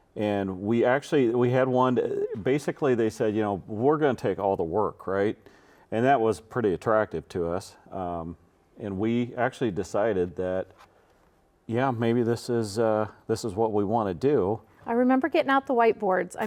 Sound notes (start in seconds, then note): none